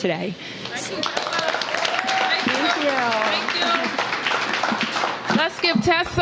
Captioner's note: applause